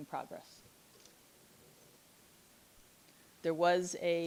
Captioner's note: board member faintly speaking